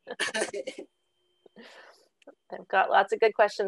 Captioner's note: laughter